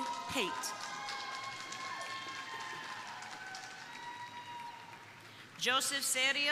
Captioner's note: crowd cheering; crowd applauding